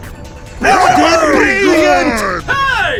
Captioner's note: GRN Cheers